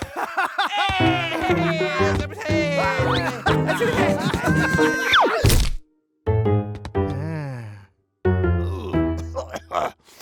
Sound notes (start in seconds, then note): 0.0 laughing; 0.0 cheering; 4.1 screaming; 4.7 crashing